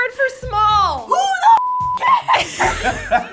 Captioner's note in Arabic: الصافرة